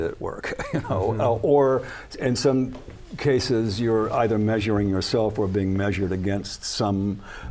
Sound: laughs

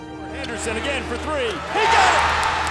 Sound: voiceover; cheering

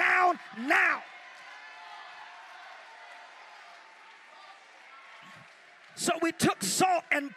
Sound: crowd cheers

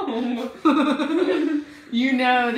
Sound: laughter

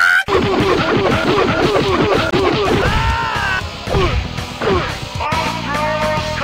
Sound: fighting game yells

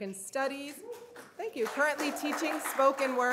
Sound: audience cheers

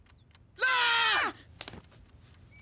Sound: <i>both screaming</i>

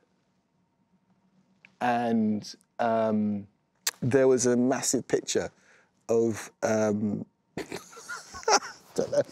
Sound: laughs

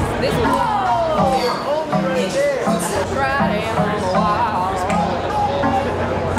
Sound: chatter

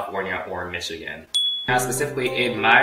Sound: ding

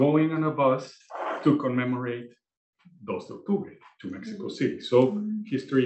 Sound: spanish

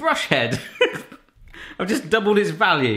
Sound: sniggers

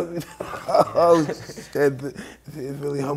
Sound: both laughing

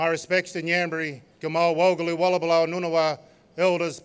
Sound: non-english speech

